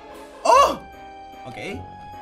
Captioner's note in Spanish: Sorprendido